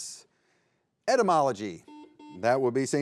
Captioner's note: buzzer beeps